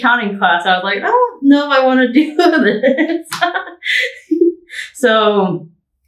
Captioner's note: laughing